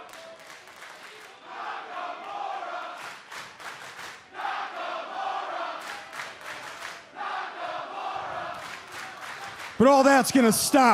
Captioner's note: crowd cheering